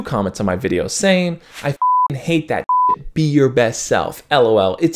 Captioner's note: beep